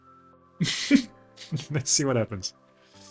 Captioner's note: laughs